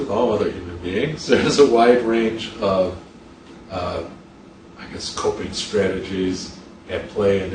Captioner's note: chuckles